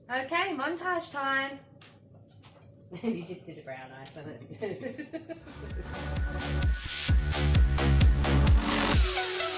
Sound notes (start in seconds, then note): 4.4 he he; 4.4 laughter